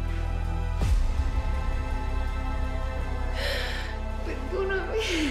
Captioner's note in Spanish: Sollozos